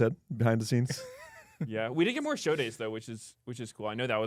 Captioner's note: laughs